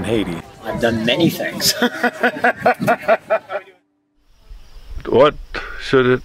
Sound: laughs

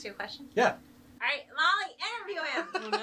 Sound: laughing

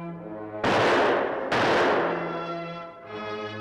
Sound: gun firing

